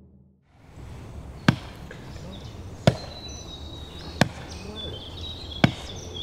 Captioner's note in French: bruit de hâche